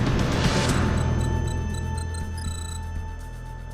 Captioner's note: beeping